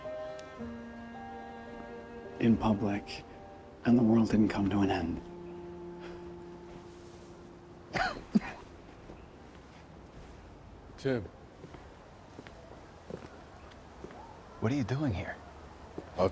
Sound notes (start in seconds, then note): 7.8 coughs